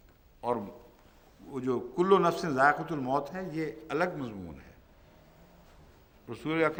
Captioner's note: Arabic